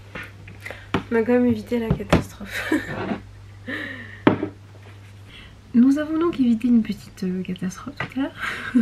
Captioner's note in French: rires